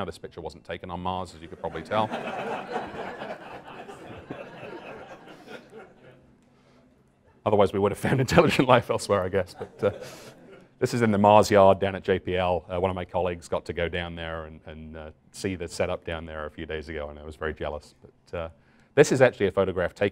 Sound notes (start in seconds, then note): 1.5 laughter